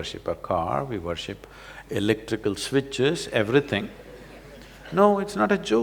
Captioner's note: laughter